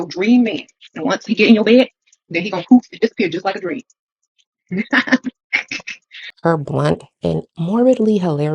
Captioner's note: cackles